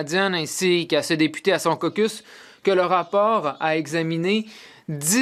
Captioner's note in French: voix de l'interprète